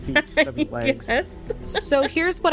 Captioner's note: laughing